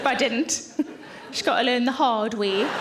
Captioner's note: audience laughing